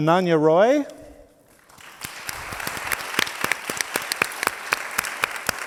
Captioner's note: audience applauds